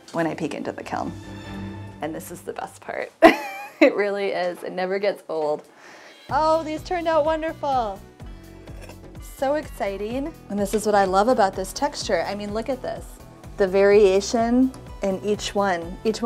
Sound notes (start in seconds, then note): 0.6 dramatic music; 3.4 laughs